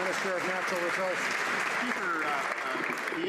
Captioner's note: some Applause